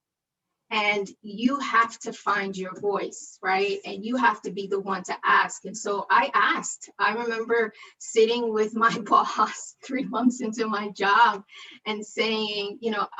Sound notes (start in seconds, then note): 9.9 laughter